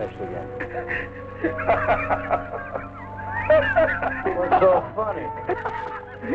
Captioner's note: Colonel Cabeza laughing